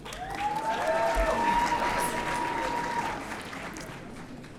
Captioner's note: audience cheering